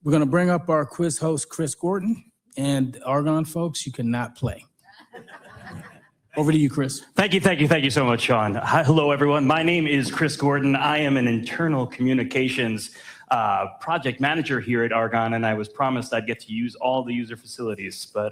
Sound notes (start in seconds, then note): 5.0 audience laughing